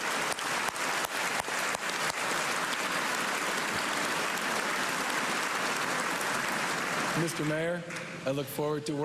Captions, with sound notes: COLLABORATION OF BOSTON MAYOR MARTY WALSH AND HIS TEAM. THANK YOU. [ CHEERS AND APPLAUSE ]